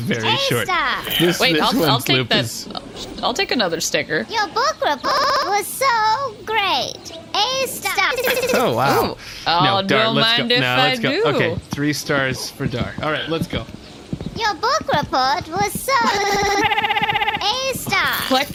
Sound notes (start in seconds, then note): 4.2 glitching